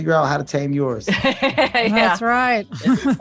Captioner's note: laughing